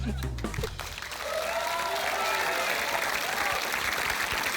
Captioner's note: applause